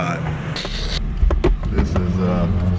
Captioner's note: static